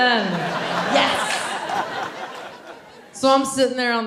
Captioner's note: audience laughing